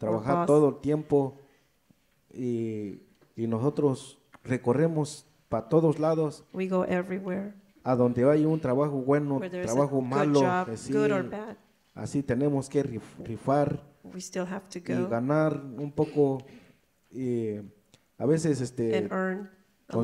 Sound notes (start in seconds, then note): 0.1 speaks in foreign language; 7.9 speaks in foreign language; 12.1 speaks in foreign language; 15.3 speaks in foreign language